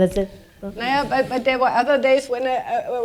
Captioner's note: speaking german